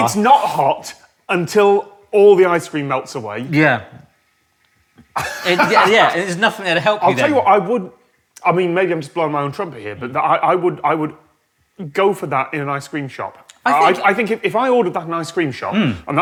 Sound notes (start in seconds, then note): 5.1 chuckles